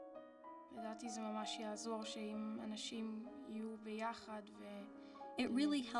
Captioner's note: speaking foreign language